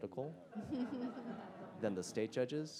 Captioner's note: attendees laughing